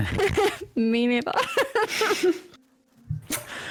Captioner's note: concerned laughter; giggles